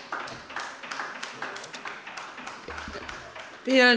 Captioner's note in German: Beifall bei der LINKEN